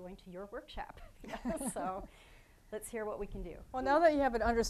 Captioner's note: both laughing